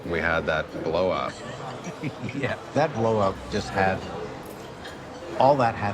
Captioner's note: laughs